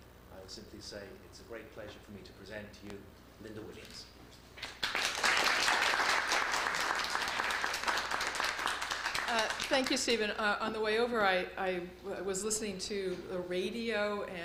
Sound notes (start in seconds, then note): 4.6 applause